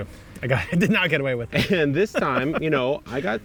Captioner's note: laughs